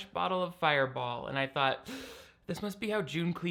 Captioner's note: man gasping